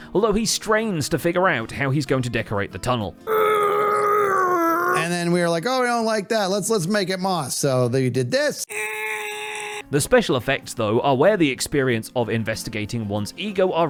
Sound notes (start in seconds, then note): 3.8 straining noise; 8.7 higher pitched straining noise